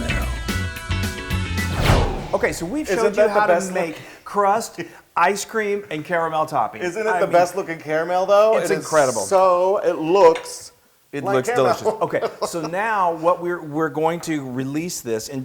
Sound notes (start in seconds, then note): 11.4 laugh